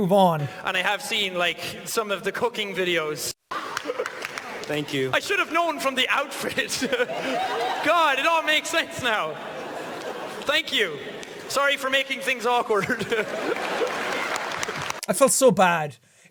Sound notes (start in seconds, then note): 6.1 laughs; 12.7 laughs